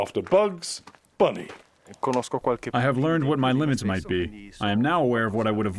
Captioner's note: through translator